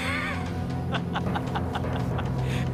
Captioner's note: laughing